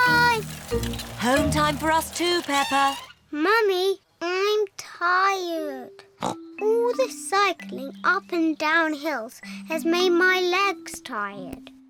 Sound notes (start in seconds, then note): 5.7 snorts